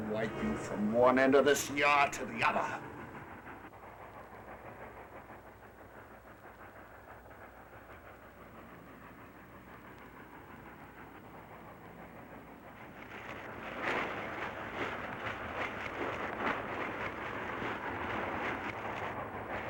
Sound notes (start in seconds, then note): 0.0 suspenseful music; 4.4 train engine chugging; 13.8 scuffling